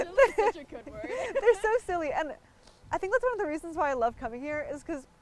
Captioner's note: laughing